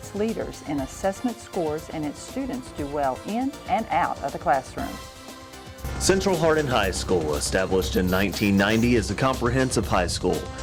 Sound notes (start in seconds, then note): none